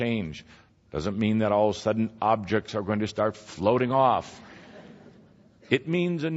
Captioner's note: some laughter